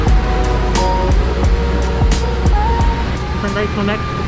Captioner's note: machines whirring